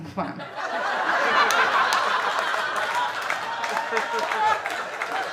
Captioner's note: audience laughing